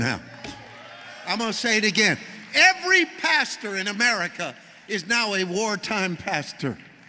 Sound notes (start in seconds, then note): 0.5 congregation cheering